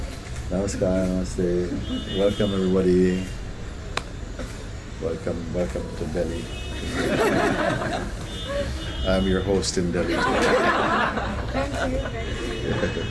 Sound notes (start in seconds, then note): 6.8 laughter; 10.0 laughter; 12.6 Mooji chuckling